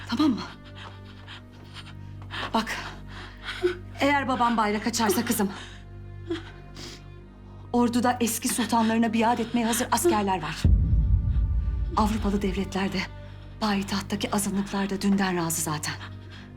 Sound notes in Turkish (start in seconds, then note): 1.1 Ağlama sesi; 6.4 Burun çekme sesi